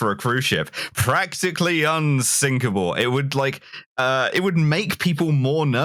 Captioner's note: announcer voice